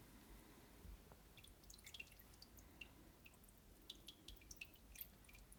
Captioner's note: water trickling